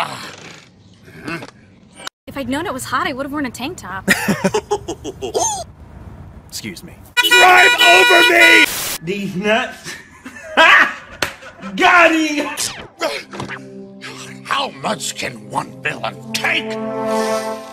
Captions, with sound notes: If I'd Known it was Hot I Would've worn a Tank Top. [Laughs Harshfully] 'Scuse me [Yells with Misery] DRIVE OVER ME!!! Deez Nuts HA!!! [Man on phone line Laughing] GOT HIM!!! How Much can one Villan TAKE?!